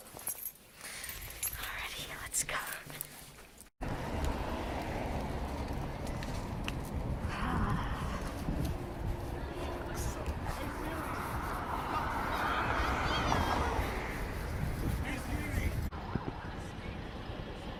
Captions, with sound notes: (+keys jangle+) Alrighty, let’s go! (+cars on street noise+) haaaaaah… Drexel night... (+police sirens+)